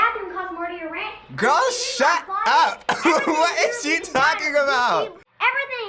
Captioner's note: laughs